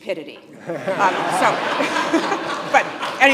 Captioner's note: audience laughing